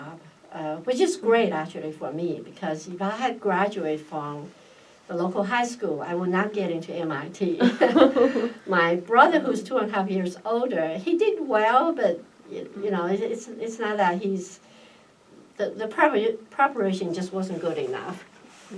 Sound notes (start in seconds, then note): 7.6 laughs